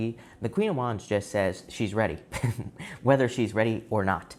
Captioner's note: chuckling